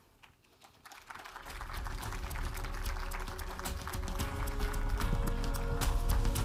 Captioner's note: audience applauding; uplifting music